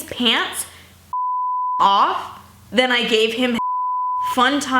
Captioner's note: beep